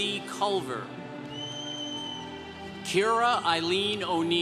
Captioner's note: congregation cheering